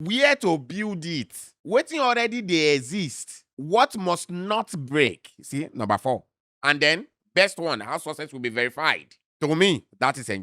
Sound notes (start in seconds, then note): none